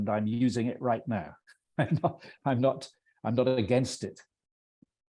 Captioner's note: laughing